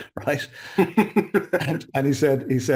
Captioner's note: chuckles